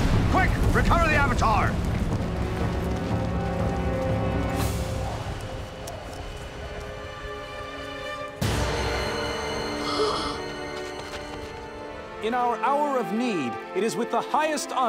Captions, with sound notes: Quick! Recover the Avatar! [gasping] In our hour of need, it is with the highest honor